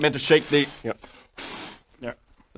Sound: blow

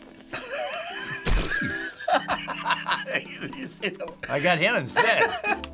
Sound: laughs

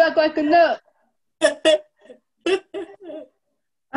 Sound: laughter

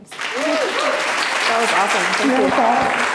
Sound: audience applauding

